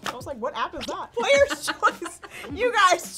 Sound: laughs

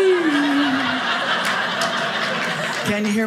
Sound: audience laughing

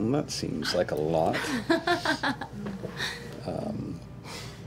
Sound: laughs

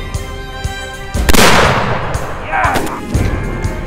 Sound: gun shot

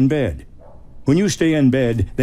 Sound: dog barks

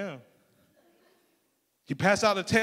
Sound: crowd laughing

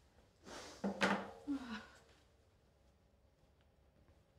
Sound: sighs

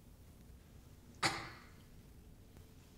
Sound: coughs

